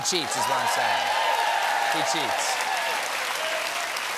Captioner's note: cheers and applause